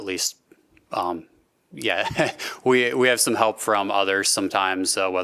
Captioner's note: laughter